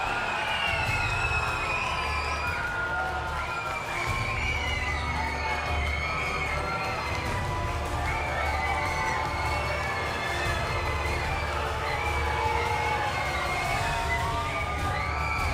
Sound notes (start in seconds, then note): 4.2 crowd cheering